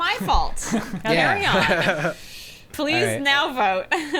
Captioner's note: players laughing